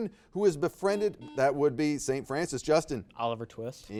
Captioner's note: buzzer beeps